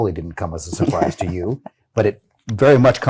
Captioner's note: laughing